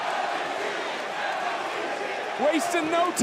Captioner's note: crowd chanting